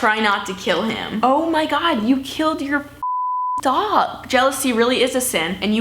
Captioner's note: beep